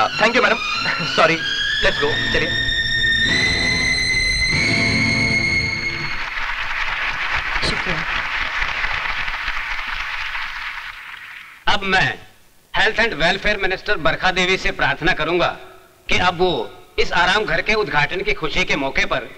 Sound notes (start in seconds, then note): 5.9 applause